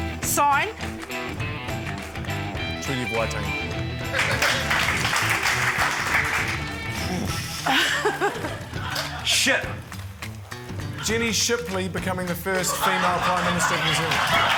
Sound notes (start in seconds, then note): 4.0 applause; 6.8 sighs; 6.8 laughs; 14.3 laughter, applause